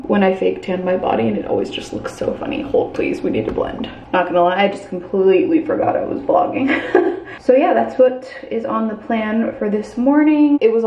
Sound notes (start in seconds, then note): 6.6 laughs